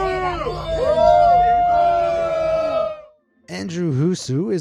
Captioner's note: crowd boos